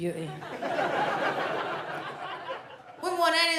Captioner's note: audience laughs